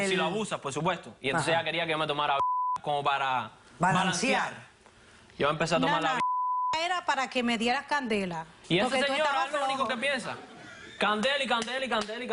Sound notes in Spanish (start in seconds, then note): 2.4 Bip; 6.1 Bip